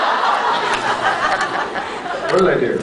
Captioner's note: laughs